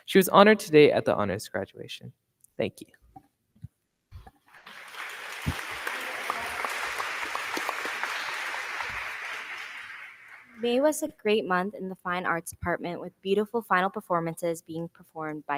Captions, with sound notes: She was honored today at the honors graduation. Thank you. (crowd cheering) (crowd clapping) >>May was a great month in the fine arts department with beautiful final performances being performed